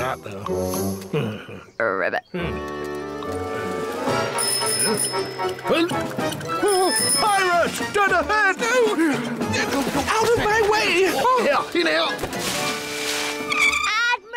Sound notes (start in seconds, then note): 2.1 croaks; 4.3 tricycle bell rings